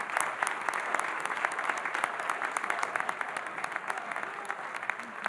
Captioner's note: audience applauding